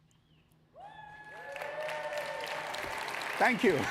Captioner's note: audience applauding